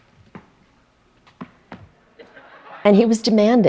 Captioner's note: audience laughter